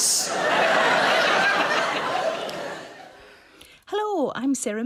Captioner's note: audience laughs